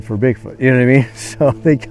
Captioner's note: chuckles